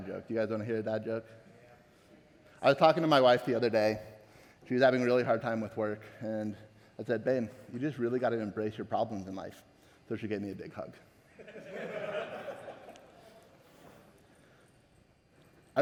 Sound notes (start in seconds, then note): 11.4 audience laughing